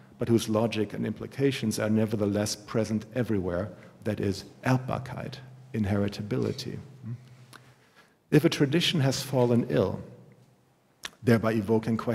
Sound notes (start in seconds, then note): 5.5 german